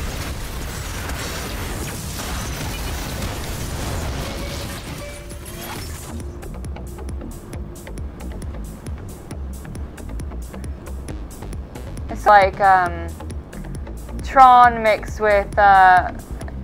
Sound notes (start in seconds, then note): 0.0 shots exploding; 0.0 lasers firing; 3.8 beeping; 4.7 intense electronic music